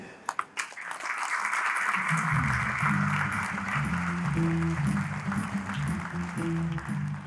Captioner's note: applause